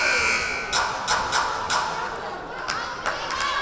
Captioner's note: buzzer blaring; rhythmic clapping; whistle blowing; yelling